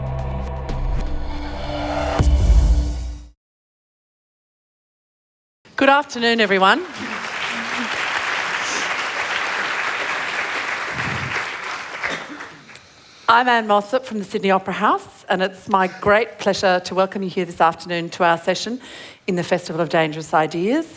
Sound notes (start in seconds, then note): 6.4 applause